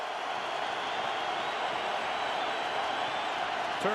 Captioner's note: crowd cheers